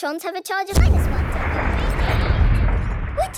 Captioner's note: distant explosion